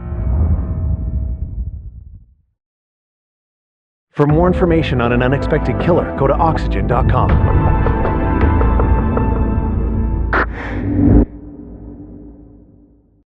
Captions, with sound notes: For r more infnformationon n An Unexpxpected KiKiller go o Oxygygen.com (quickck inhale e of oxygeg)